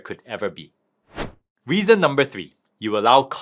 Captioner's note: slide thuds